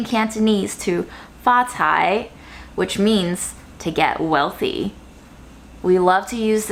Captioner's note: speaking Chinese